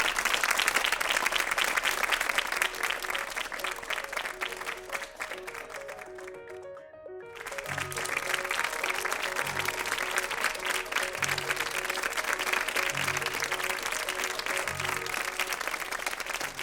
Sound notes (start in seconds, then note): 3.2 instrumental music; 7.9 all clapping hands; 11.1 instrumental music